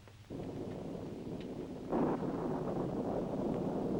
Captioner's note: thunder rumbling